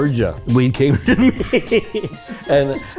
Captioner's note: Cheech laughs